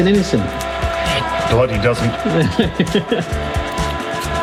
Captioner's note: laughs